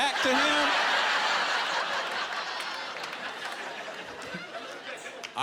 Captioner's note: laughter